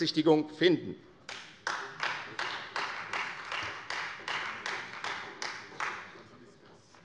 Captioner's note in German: Beifall Freie Demokraten und vereinzelt SPD